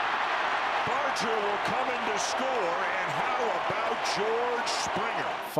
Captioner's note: cheering